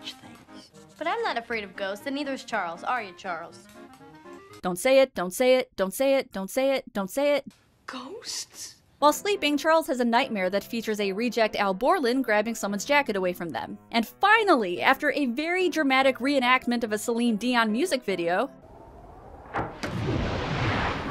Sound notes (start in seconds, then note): 19.5 window opening